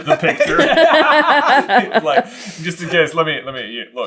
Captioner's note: laughter